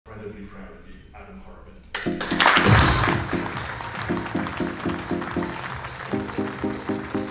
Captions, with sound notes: - Fred would be proud of you, Adam Horabin. (audience applauding) (bright music)